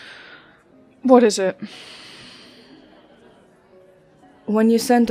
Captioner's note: sighs